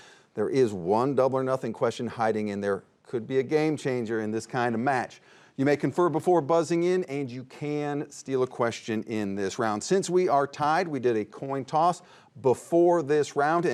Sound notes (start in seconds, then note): none